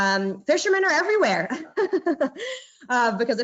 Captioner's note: laughing